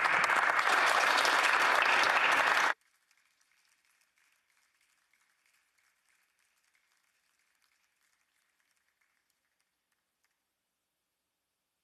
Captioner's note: applause